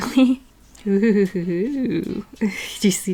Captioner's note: weird excited artist noises